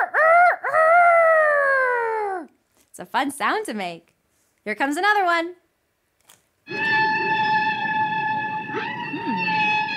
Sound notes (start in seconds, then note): 0.1 crows; 6.2 screeching